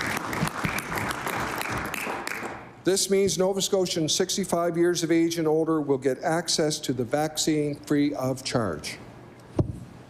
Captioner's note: applause